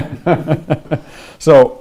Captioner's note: presenter laughing